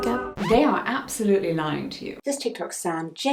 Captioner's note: record scratch